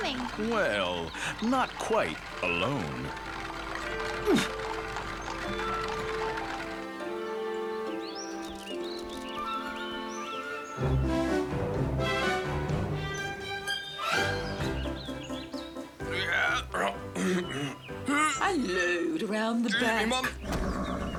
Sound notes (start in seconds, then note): 15.5 coachman grunting; 19.7 horse neighs; 21.0 coachman shouting